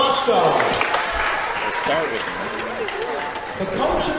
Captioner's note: cheering